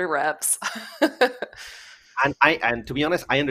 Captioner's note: laughs